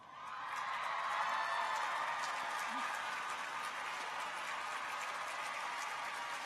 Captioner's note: audience applauds; people cheer